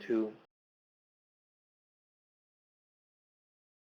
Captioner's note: audio cuts out